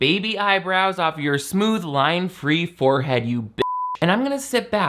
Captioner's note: beep